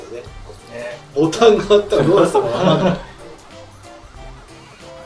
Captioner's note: laughs